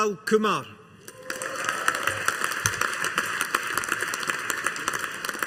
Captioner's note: audience applauding